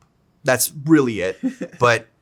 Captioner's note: Zack laughs